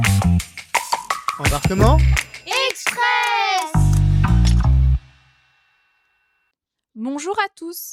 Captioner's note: cheers